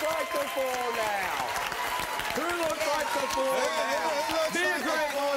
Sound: audience applause

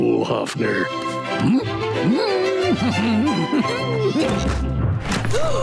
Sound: chuckles; humming; gasping

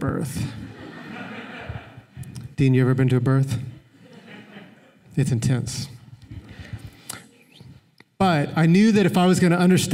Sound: laughter

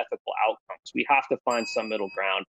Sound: bell dings

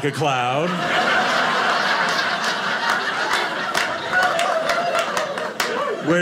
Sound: audience laughing

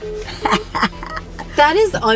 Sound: laughing

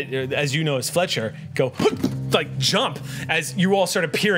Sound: gasp

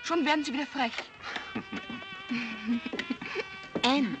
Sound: Joe laughing

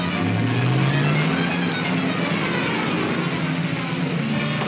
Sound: engine roaring

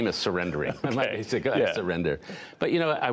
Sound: laughter

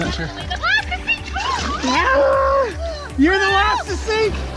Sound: screaming

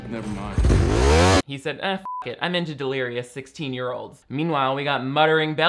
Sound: beep

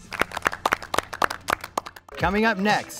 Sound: all applaud

